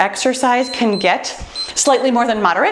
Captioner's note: timer beeps